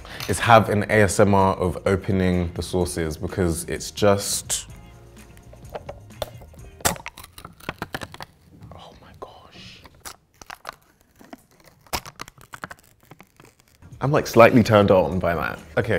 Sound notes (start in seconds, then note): 6.8 lid cracking open slowly; 10.4 lid cracking open slowly